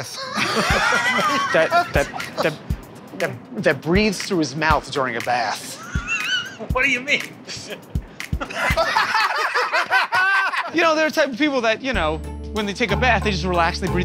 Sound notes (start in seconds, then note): 5.5 laughs; 8.4 laughter